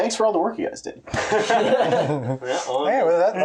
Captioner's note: laughter